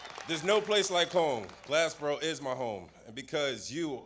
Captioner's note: applause